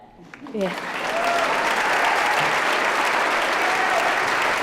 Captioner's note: applause